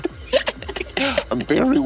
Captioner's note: players laughing